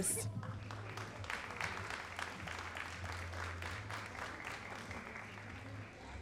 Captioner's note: all applauding